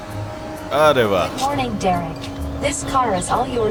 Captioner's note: electronic Voice